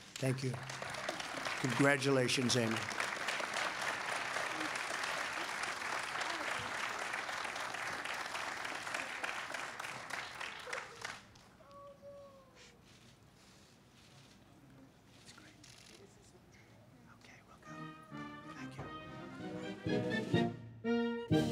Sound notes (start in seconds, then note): 10.3 applause